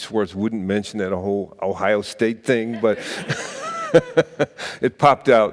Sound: laughs

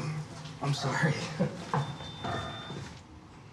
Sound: elevator beeps

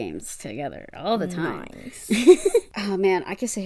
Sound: laughs

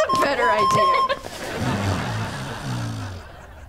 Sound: snoring

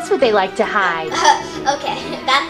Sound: assistant laughing

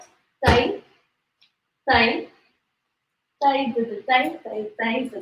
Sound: stamps foot; sings in Indian language

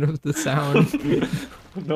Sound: proudly continues to laugh at his own joke

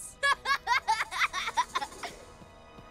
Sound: laughing

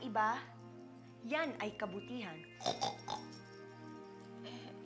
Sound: snorts

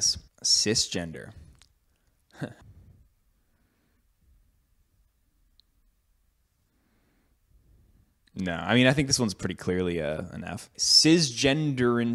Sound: laughs

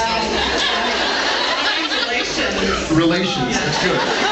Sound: laughs

